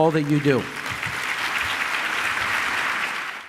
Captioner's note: applause